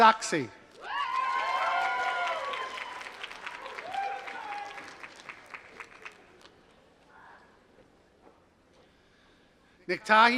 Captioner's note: applause